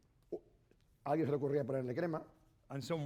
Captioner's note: speaking spanish